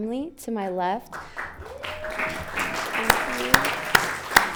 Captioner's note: audience applauding